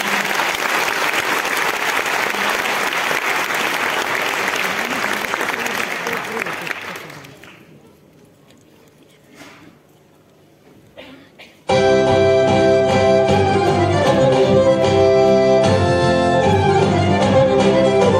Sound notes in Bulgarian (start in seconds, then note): 0.0 аплодисменти